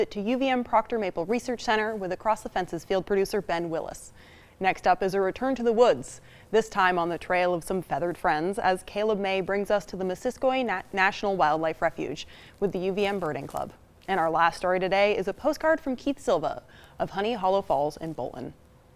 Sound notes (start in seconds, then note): none